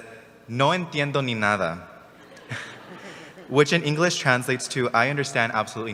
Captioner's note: spanish